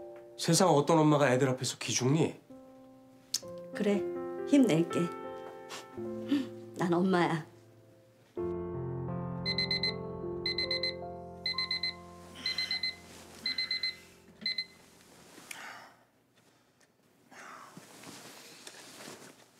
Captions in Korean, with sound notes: 세상 어떤 엄마가 애들 앞에서 기죽니? -그래. 힘낼게. 하하. 나는 엄마야. -(알람 소리)